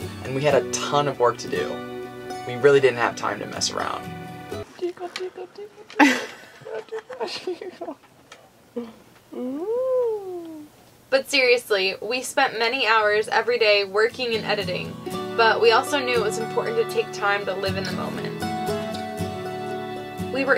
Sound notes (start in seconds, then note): 4.7 laughing